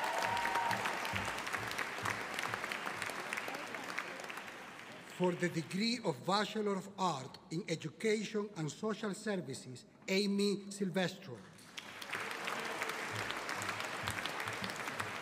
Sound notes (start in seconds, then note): 0.0 audience applauding; 11.6 audience applauding